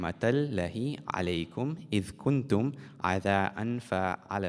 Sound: speaking in Arabic

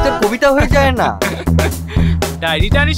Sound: laughing

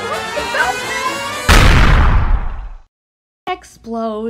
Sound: kablooey!

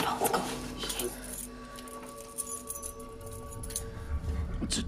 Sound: keys jiggling

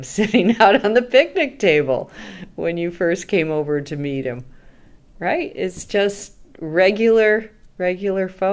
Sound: laughs

